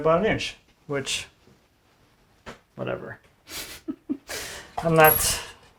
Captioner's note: chuckles